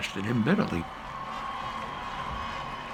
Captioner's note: applause and cheering continue